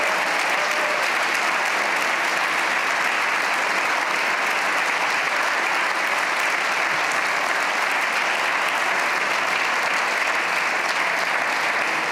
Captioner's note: cheers and applause